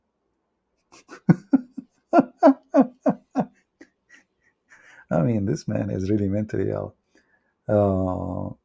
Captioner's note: Ketawa